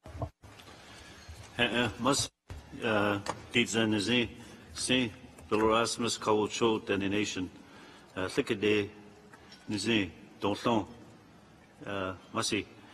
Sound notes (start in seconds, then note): 1.8 speaks in a foreign language